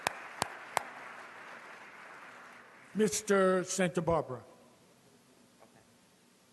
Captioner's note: clapping